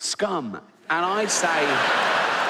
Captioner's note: audience laughing